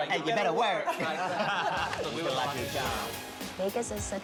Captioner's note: laughter